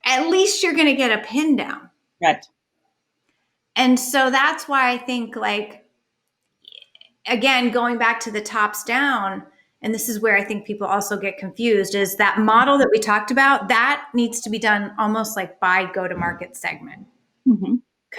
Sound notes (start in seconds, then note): none